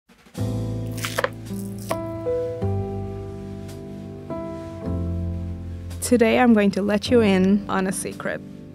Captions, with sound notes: [soft jazzy music] [galette crunching] - Today I'm going to let you in on a secret: